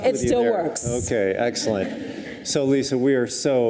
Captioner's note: audience chuckles